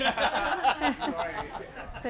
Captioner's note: laughter